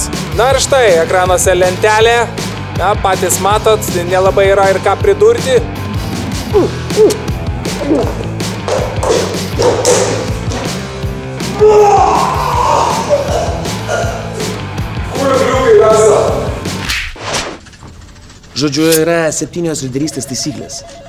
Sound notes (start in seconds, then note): 6.5 puking; 12.1 puking a lot